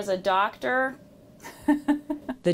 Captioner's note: laughter